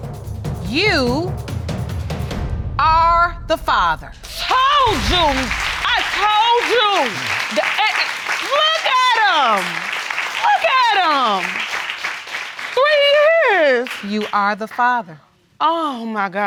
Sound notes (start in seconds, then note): 4.0 applause